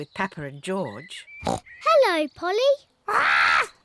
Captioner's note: oinks